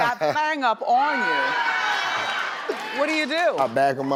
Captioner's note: audience screaming